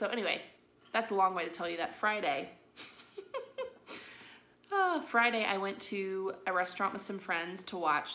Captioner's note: giggles